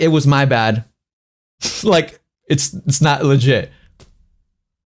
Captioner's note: laughs